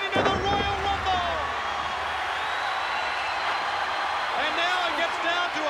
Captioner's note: applause